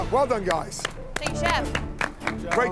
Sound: clapping

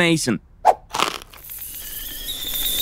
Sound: kettle whistle

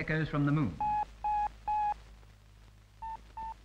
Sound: beep, Beep, Beep

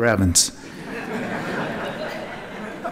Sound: laughter

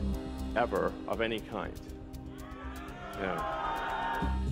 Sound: audience cheering

